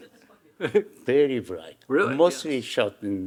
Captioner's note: chuckling